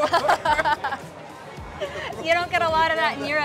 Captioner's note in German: Gelächter